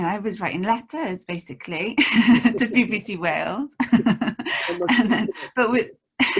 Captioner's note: laughs